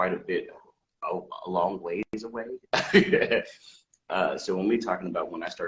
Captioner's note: laughing